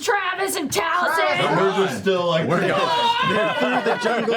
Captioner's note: yells